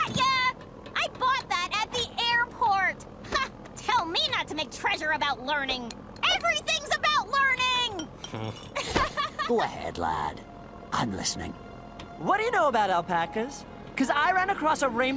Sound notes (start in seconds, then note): 8.8 clank; 9.9 laughs